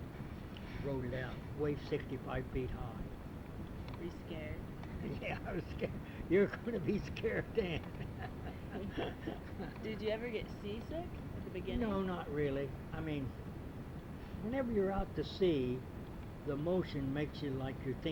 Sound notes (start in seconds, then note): 4.9 laughs